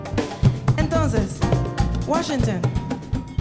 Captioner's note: speaking in Spanish